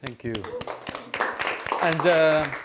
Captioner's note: applause